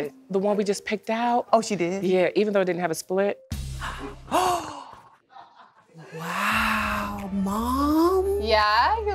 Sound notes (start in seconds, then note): 6.0 gasps